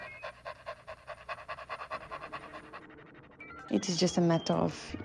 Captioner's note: Robo Dog panting